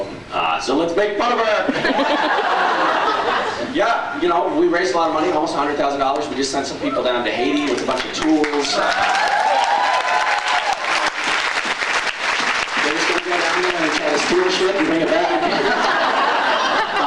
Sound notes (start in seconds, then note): 1.7 laughs; 9.0 applauds, cheers; 14.7 laughs